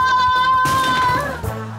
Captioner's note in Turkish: Çarpma sesi